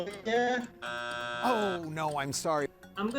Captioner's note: buzzer drones